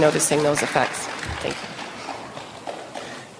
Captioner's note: applause